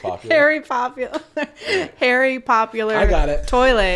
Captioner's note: laughing